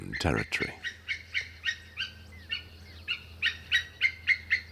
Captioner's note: eagles cawing